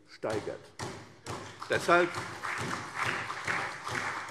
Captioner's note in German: Beifall CDU, SPD und Freie Demokraten